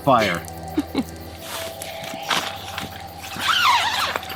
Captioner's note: chuckling